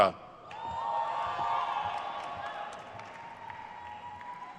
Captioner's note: crowd cheers